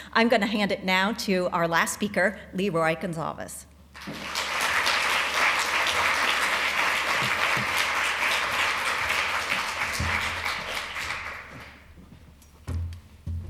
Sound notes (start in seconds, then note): 3.9 applause